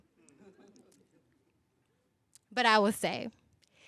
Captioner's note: laughing